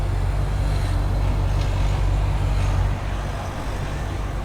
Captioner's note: traffic humming